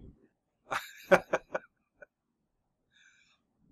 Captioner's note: laughs